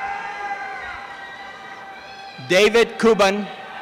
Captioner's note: applause and cheering